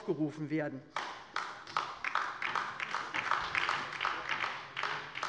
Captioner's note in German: Beifall bei der LINKEN